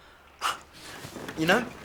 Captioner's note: laughs